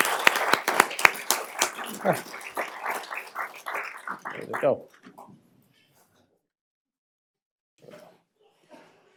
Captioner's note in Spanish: aplausos